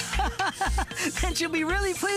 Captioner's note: laughing